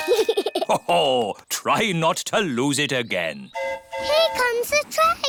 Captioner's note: giggles; train horn hooting